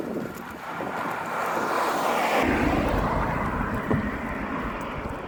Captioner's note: car engine revs